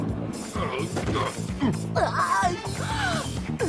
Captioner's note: smash